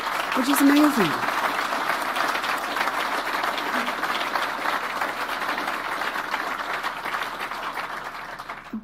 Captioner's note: applause